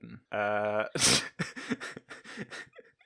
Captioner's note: laughter